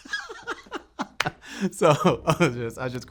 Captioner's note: participant laughs